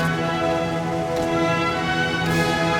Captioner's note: revolver fired X5; revolver fired X6